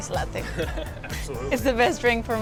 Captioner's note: laughs